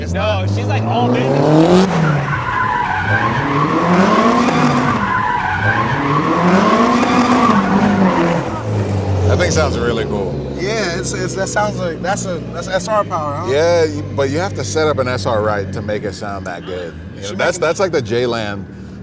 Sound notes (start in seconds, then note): 1.5 engine revving; 1.5 tires screeching